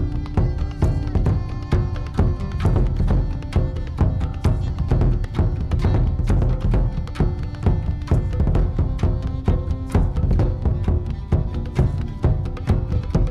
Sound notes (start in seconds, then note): none